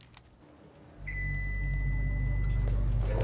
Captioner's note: suspenseful music; elevator pings